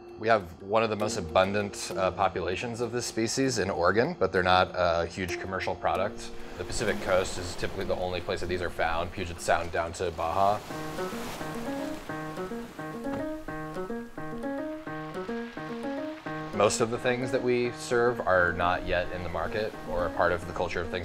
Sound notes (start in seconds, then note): 10.9 upbeat piano music; 10.9 waves crashing; 13.1 slamming